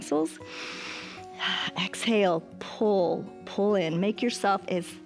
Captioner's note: inhales